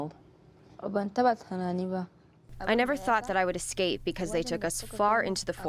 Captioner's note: through translator